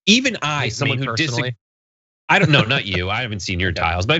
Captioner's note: laugh